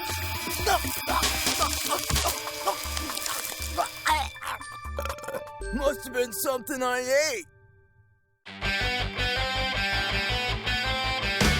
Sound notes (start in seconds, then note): 0.6 gagging; 4.2 belches